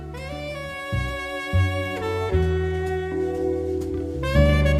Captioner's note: kissing